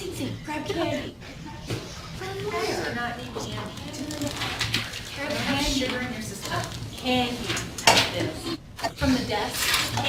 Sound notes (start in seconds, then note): none